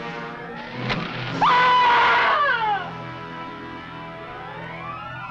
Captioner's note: arrow whooshing; Angelica screaming